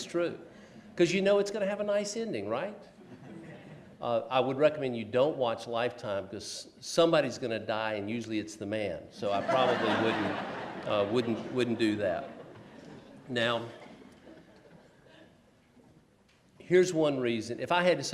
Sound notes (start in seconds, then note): 9.4 laughs